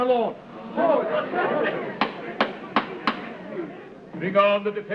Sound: crowd murmuring, judge banging gavel

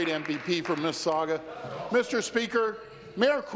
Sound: applause

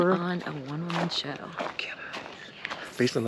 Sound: none

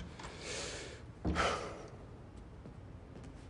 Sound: sighs deeply

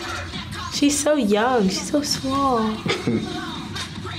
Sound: chuckles

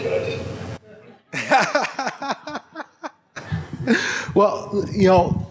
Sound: laughter

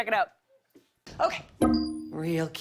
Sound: ding

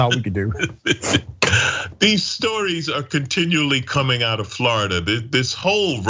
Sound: laugh

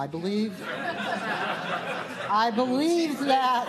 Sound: laughter

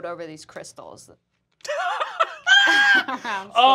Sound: laughing

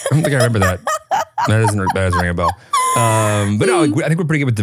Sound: laughing

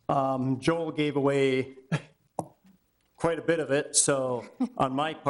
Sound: chuckles

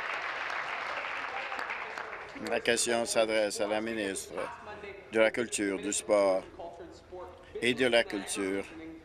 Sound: applause

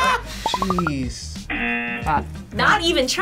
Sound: both laugh; buzzer

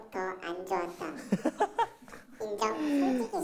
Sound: laughing

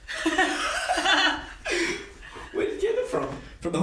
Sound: men laughing

